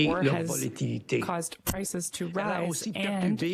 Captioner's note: speaking French